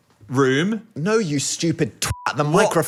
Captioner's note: beep